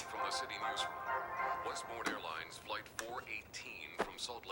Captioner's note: radio Announcer